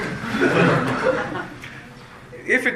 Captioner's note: laughter